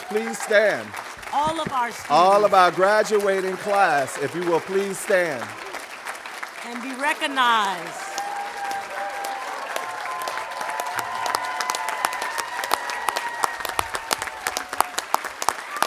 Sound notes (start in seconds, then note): 8.3 audience cheering and applauding